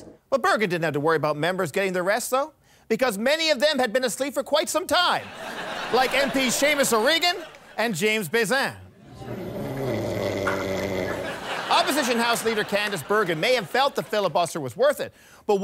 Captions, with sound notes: Well, Bergen didn't have to worry about members getting their rest though, because many of them had been asleep for quite some time: Like MPs Seamus O'Reagan, and James Bezan. *snoring sounds* Opposition House Leader Candice Bergen may have felt the filibuster was worth it,